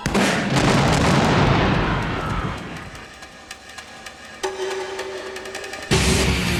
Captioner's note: grenade explodes; man screams; heavy metal music